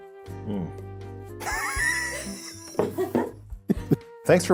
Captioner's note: laughs